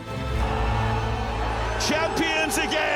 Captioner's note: men cheering